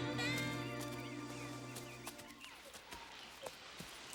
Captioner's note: birds chirping